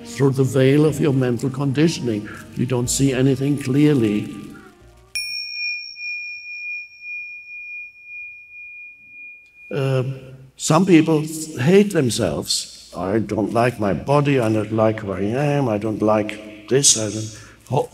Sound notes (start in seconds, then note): 5.1 bell dinging